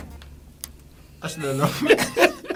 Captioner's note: laughs